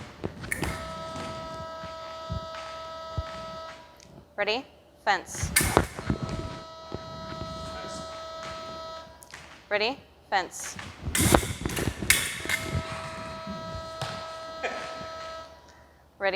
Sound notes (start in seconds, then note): 5.4 click; 11.1 clicking; 14.6 chuckling